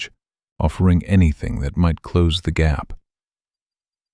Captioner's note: calm and slow